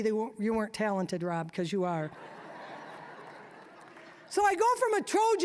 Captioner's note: audience laughing